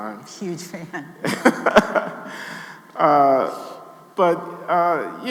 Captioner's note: Glenn laughing